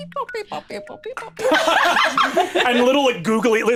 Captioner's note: all laughing